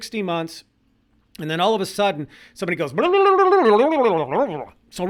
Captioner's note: gibberish trills